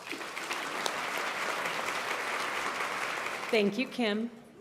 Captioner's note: applause